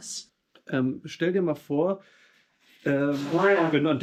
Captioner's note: speaking in foreign language